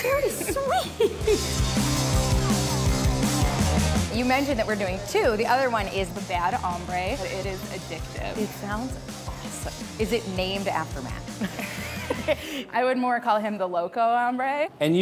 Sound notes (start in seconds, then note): 0.0 laughs; 11.3 both laugh